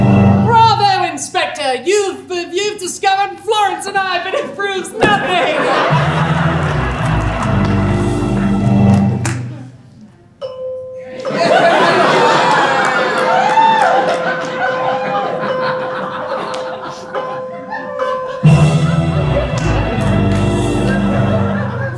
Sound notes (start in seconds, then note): 0.0 dramatic music; 5.5 dramatic music; 9.2 bell chimes; 13.8 laughs and cheers; 18.2 dramatic music